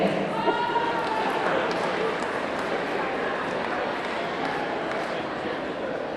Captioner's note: audience clamoring; audience clapping